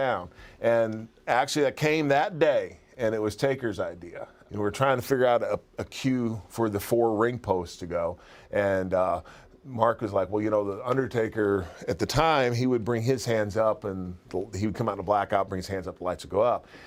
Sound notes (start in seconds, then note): none